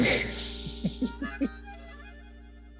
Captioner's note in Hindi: हंसते हुए